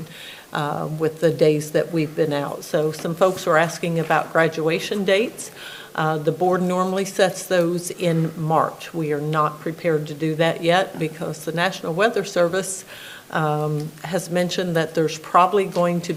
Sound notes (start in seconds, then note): none